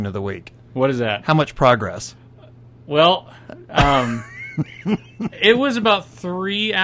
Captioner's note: laughs